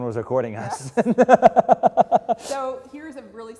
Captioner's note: laugh